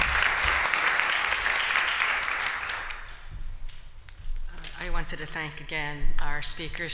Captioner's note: �applause�